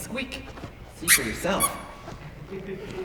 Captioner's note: extremely squeaky shoes; soft laughter